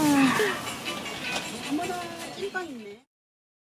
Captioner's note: sound of someone admiring steamed buns